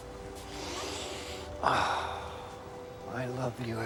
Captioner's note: Mark sighs